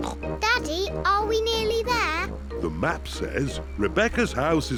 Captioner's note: snorts